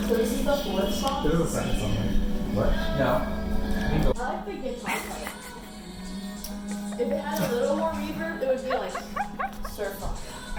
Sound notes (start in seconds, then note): 5.7 humming in the background